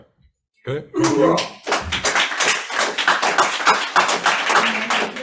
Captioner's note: audience applauds